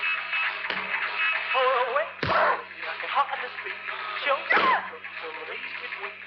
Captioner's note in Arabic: لويز تضرب جسدها وتتأوه